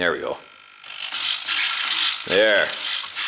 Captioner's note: shifter and wheel screeching